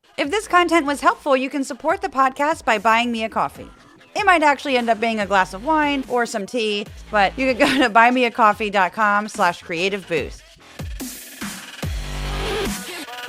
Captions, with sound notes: If this content was helpful, you can support the podcast by buying me a coffee. It might actually end up being a glass of wine or some tea, but you could go to [laugh] buymeacoffee.com/creativeboost.